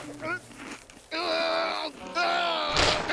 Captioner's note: groaning